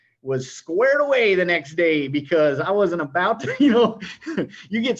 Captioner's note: laughs